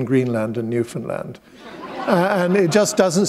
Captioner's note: chuckle